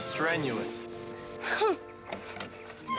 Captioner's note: scoffs